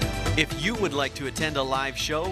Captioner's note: voiceover